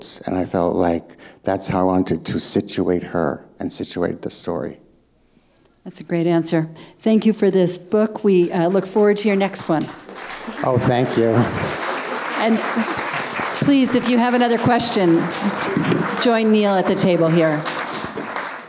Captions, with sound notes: And I felt like that's how I wanted to situate her and situate the story. - That's a great answer. Thank you for this book. We look forward to your next one. - Oh, thank you. (audience applauding) - And please, if you have another question, join Neil at the table here.